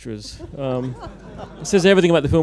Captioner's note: laughter